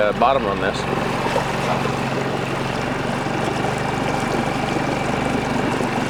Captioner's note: engine rumbling; water trickling